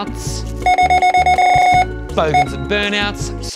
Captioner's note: scanner beeping repeatedly